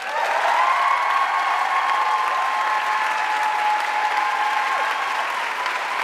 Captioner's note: audience cheering and applauding